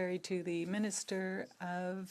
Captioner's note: speaking French